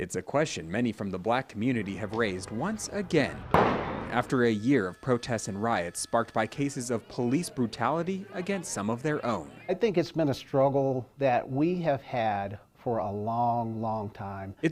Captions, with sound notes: IT'S A QUESTION MANY FROM THE BLACK COMMUNITY HAVE RAISED ONCE AGAIN. [BANG] AFTER A YEAR OF PROTESTS AND RIOTS SPARKED BY CASES OF POLICE BRUTALITY AGAINST SOME OF THEIR OWN. I THINK IT'S BEEN A STRUGGLE THAT WE HAVE HAD FOR A LONG, LONG TIME.